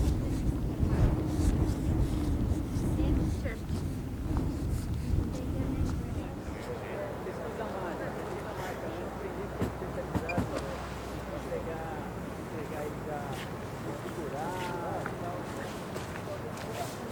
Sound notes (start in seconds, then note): 2.8 wind blowing